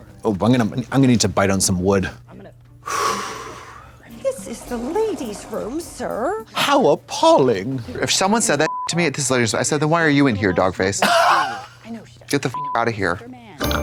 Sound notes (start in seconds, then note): 8.7 beep; 11.0 Katya rasps; 13.6 beep